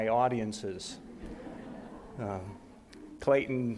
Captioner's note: audience laughs